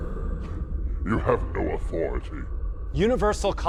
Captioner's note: scoffing